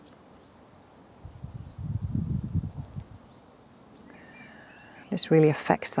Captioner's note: birds chirping; wind whooshing